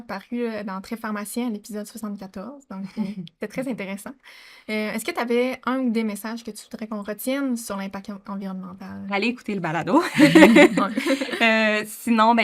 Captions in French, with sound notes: Tu as également paru dans Trait Pharmacien à l'épisode 74... (Rires) C'était très intéressant. Est-ce que tu avais un ou des messages que tu voudrais qu'on retienne sur l'impact environnemental... – Allez écouter le balado. (Rires)